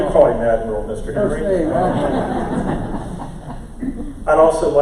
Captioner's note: crowd laughter